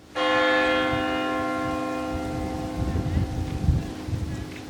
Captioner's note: bells ringing; wind blowing